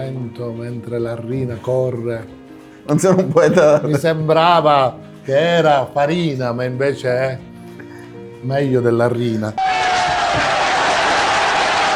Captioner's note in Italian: Applauso